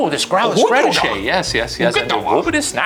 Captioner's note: speaking Simlish